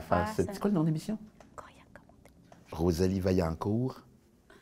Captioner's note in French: chuchotant